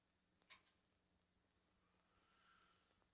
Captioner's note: none